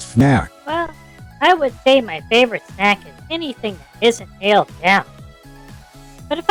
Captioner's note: sarcastically